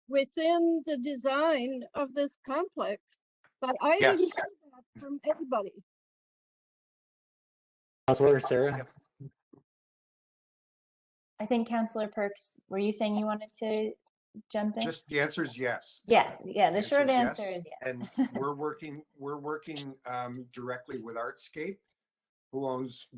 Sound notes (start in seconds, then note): 5.3 audio drops